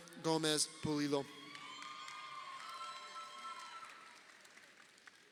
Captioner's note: crowd cheering